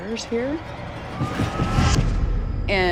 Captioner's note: thudding